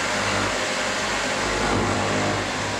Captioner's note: saw noise